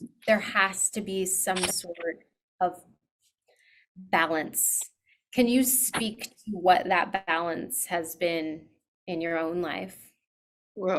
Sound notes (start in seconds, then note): none